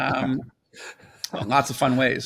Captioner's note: laughs